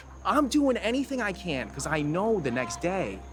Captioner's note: none